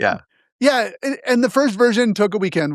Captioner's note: laugh